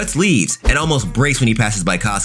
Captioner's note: air whooshing